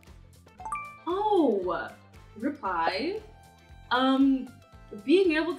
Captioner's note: notification chiming